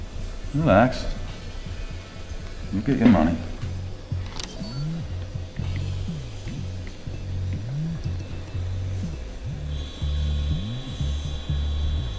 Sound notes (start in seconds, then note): 4.4 device Beeps